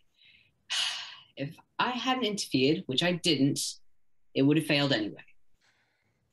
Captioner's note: sigh